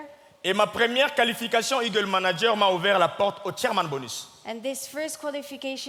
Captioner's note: speaking in French